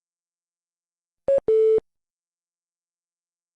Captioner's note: beep